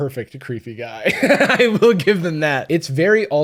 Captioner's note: laughs